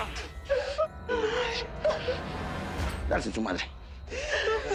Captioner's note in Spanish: Gemidos